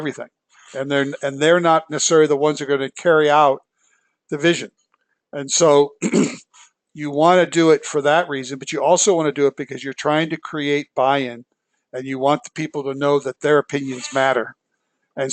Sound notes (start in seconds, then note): 5.9 cough